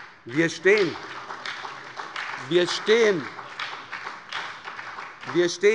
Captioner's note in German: Beifall bei der SPD